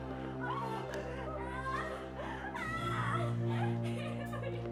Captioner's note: Frances screaming